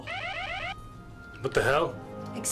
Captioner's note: alarm